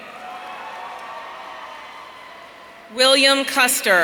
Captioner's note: audience cheering